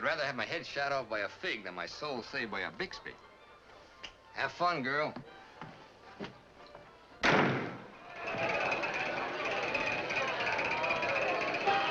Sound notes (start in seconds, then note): 7.2 door slams; 8.0 wheel rattling